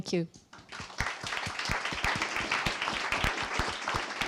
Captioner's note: audience applauds